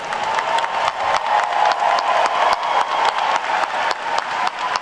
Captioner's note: attendees cheer and clap